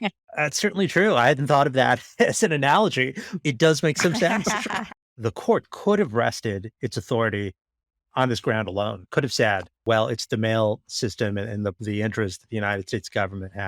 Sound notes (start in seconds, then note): 2.7 laughing